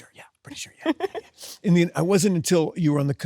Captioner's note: Sydney laughs